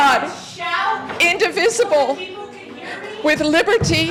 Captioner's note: crowd shouting out